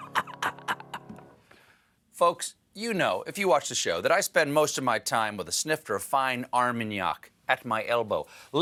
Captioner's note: laughing